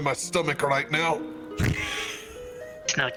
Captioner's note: laughs